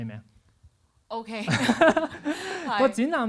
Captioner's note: laughs